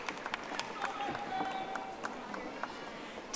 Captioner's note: audience applauding